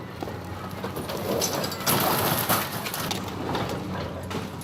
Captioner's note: rubble breaking